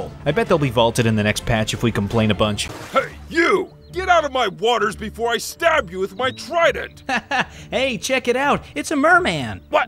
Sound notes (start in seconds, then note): 6.1 laughs